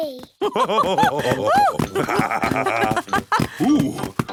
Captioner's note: both laugh